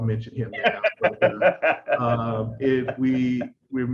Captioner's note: laughs